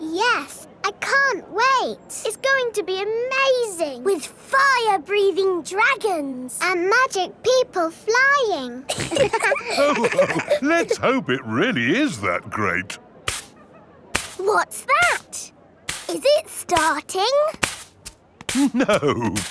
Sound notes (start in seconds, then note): 8.9 all laughing; 14.1 brushing